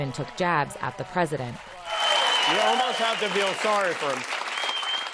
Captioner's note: applause